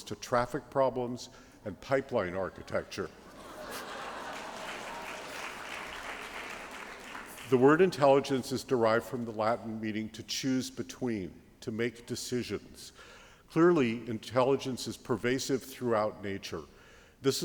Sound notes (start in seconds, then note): 3.2 applause